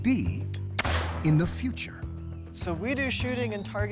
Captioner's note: gunshot echoes